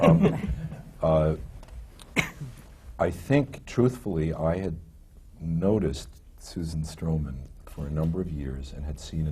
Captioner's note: laughter